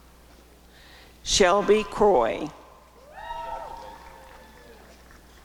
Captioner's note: applause and cheering